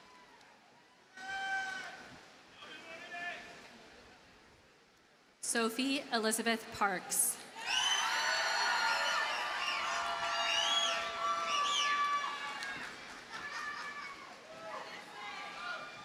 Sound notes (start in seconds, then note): 7.6 audience cheers and applauds